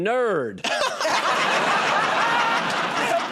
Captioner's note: laughter; applause